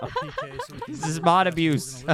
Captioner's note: laughing